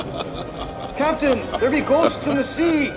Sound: menacing laughter

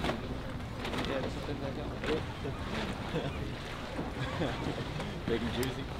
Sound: group chattering softly

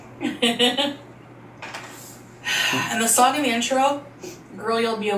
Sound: laughing

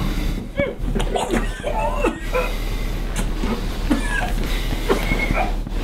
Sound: more vomiting in the background

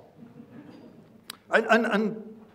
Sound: people laughing

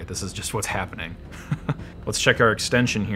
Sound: chuckles

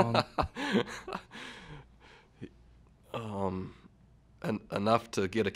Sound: chuckle

